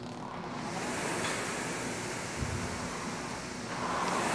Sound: machine whooshing

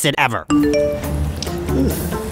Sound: notification ding

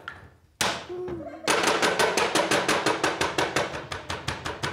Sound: sticks banging

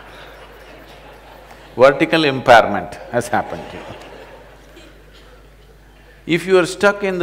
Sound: laughter

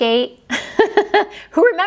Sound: laughs

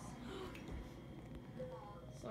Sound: gasp

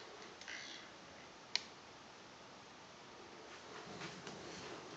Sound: hard drive noise in background

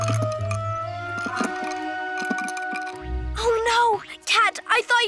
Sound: ice tinkles

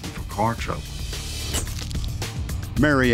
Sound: camera snapping

